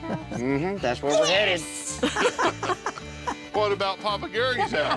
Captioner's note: laughter